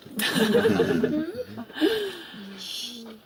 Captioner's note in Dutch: gelach